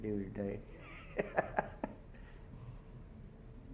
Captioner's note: chuckles